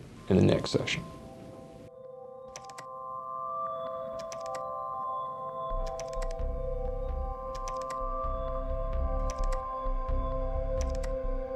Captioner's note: keyboard clicking